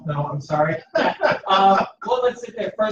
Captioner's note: laughs